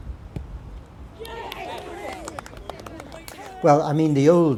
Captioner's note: cheers